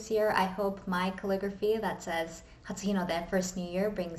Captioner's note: foreign language